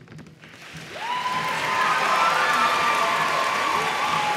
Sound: audience applauds

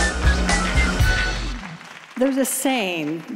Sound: applause

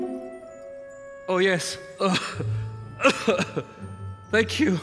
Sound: cough

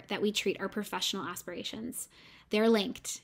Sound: none

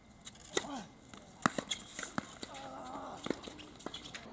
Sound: tennis sounds and grunting

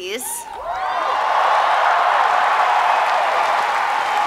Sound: applause

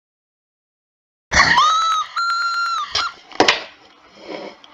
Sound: Salli screaming

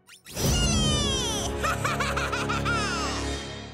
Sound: laughing

